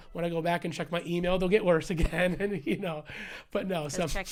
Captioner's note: laughter